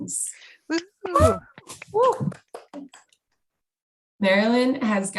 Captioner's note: cheers